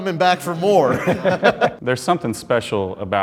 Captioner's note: men laughing